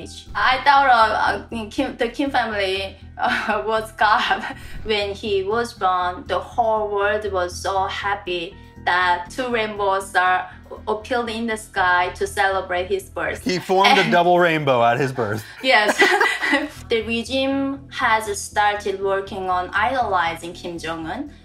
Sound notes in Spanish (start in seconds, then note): 15.1 risas